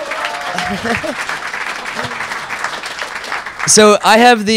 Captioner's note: audience applauding